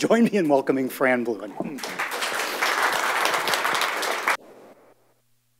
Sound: audience applauds

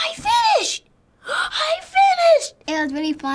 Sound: gasps

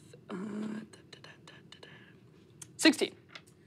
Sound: humming

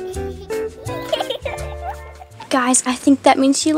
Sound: calm, jazzy music; laughs

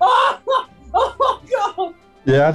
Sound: howls of laughter; laughing

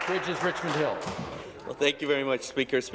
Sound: applause

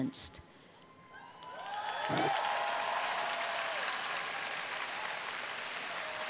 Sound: audience cheering and applauding

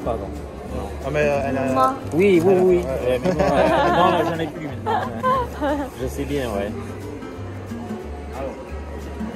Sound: laughs

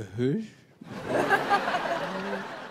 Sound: laughter

